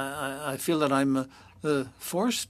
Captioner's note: speaking French